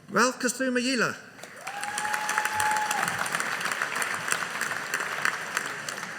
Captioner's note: audience cheering